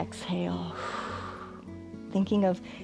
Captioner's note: inhales; exhales